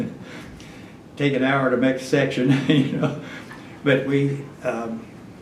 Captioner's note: laughs